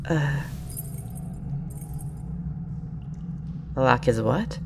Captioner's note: clink of the tool